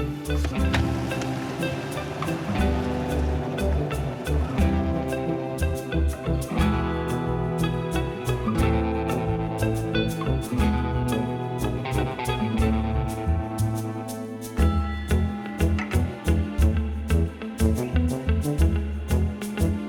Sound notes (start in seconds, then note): 1.5 bright hopeful music; 1.5 engine rumbling; 17.1 hopeful music